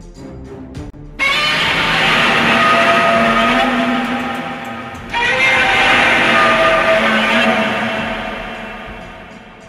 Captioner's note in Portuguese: grito de dragão